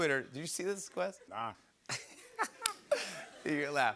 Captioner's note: laughs